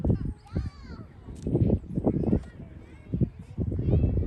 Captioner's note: people chattering